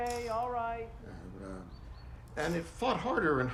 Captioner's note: Johnathan mumbling